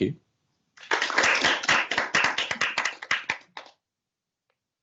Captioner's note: applause